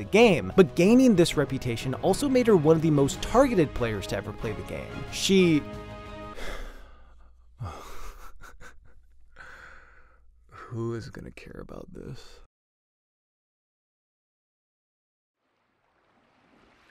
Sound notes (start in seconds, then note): 7.6 laughs